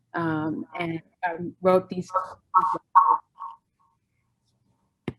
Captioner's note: distorted audio